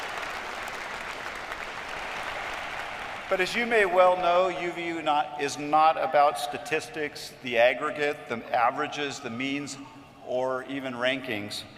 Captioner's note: cheers and applause